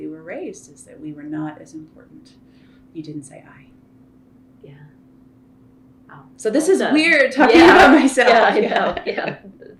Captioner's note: laughter